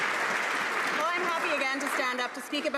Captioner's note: some Applause